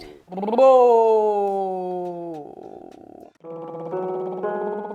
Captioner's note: lips trilling; ascending piano scales; lips trilling